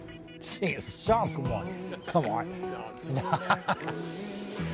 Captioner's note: laughs; gentle music